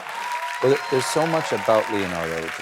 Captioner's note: applause